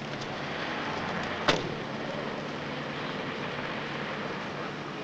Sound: car door slams

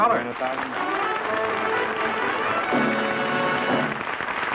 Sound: applause

